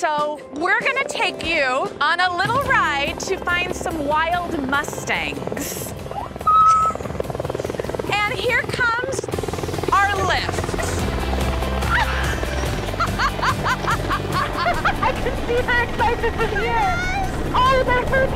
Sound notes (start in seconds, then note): 6.7 gasp; 11.8 laughing